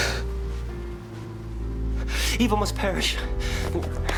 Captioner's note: exhales sharply